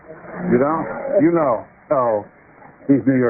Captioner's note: murmurs